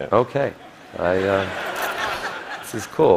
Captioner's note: laughter